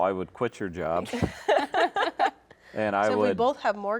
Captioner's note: laugh